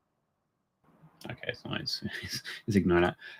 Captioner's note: chuckles